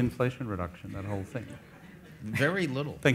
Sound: audience laughs

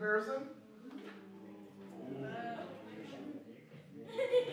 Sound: audience oohs and murmurs

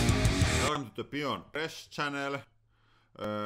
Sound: low voice

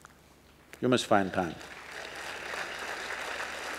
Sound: applause

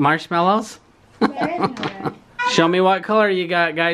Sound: laughs

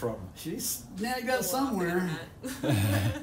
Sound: laughter

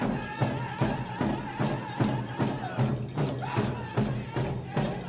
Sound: regalia ornaments jingling

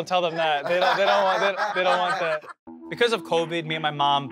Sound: laughing

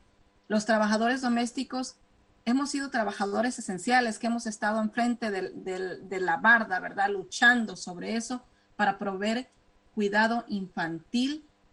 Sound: speaking spanish

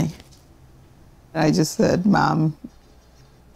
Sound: Spanish

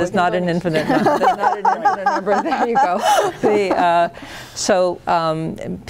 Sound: laughing

